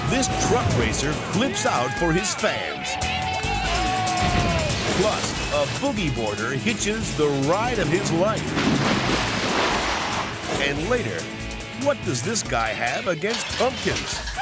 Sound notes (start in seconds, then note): 3.1 audience cheering; 8.7 water splashing